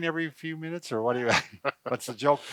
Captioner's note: laughing